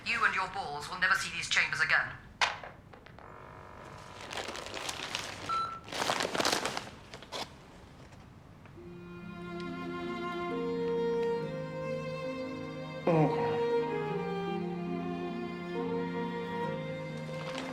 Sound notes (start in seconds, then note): 5.5 recorder beeping; 8.7 soft mournful music